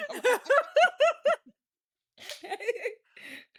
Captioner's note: laughing